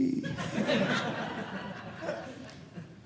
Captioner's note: audience laughing